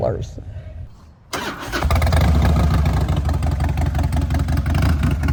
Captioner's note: engine roaring